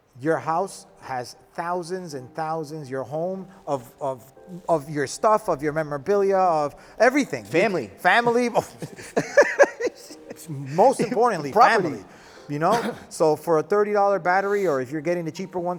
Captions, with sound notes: Your house has thousands and thousands, your home of your stuff, of your memorabilia, of everything. - Family. - Family. (laughing) Most importantly, family. So for a $30 battery or if you're getting the cheaper ones